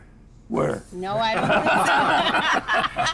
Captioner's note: everyone laughs